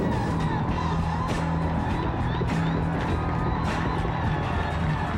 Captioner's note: cheering